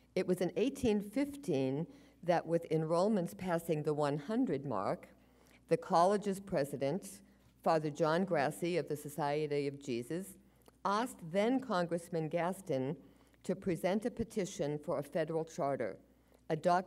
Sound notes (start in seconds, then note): none